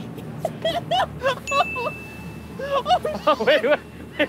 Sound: laughs

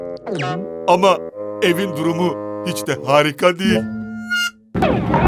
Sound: sighs

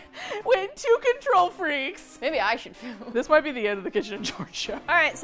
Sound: laughs; laughs

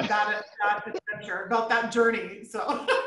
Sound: chuckling

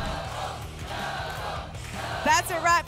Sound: audience chanting "double!"

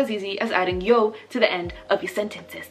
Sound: speaking Korean

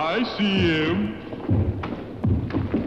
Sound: ground rumbles

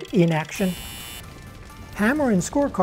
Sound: buzz

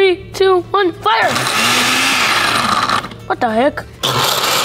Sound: blender roaring

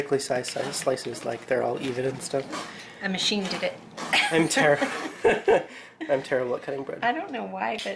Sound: laughs

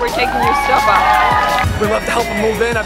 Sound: cheering

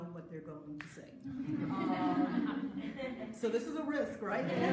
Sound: audience laughs

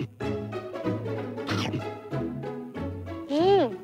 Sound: furious eating; furious eating22

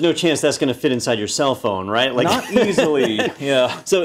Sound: laugh

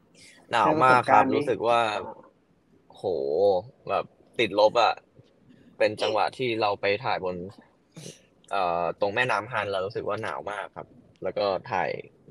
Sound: answering in Thai

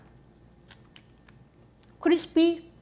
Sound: lips smacking

